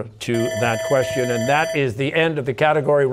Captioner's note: bell ringing